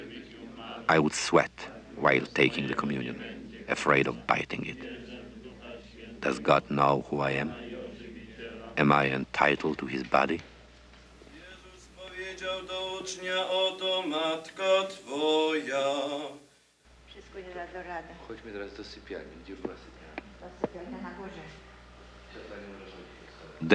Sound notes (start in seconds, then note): 13.2 men praying